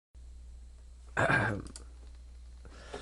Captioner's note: clearing Throat